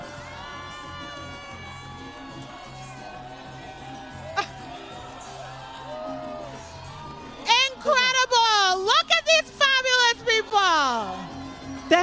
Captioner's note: applause